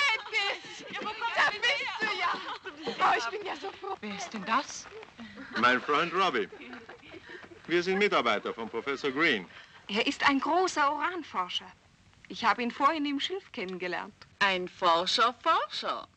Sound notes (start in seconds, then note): 3.1 women talking